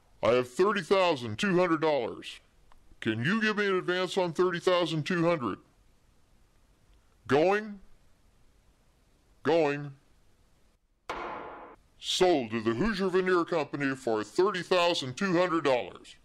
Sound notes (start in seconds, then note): 11.1 wooden knock